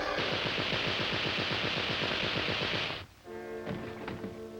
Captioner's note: machine gun firing